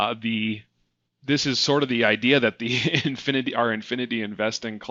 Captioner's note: laughing